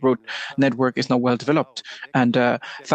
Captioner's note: speaking French